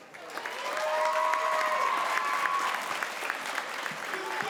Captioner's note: crowd applauds